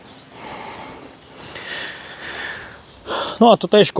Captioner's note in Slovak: smrkanie; vzdychanie